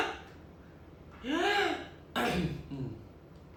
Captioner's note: clears throat